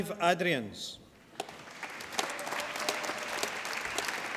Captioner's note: applause